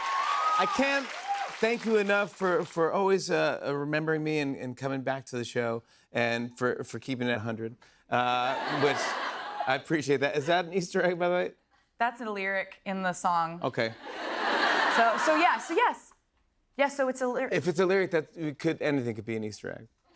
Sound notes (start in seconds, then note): 8.4 laughter; 14.0 laughter